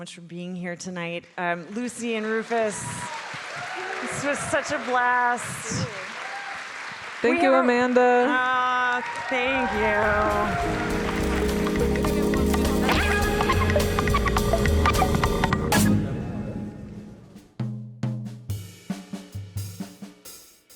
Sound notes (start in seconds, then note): 3.0 audience applauding; 9.8 bright music; 18.0 gentle music